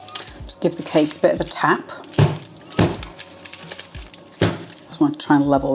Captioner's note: bang bang bang